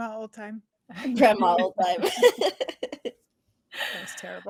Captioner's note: laughing